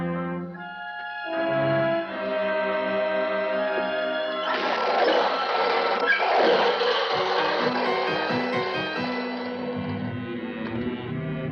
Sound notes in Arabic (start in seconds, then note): 3.5 صراخ العربة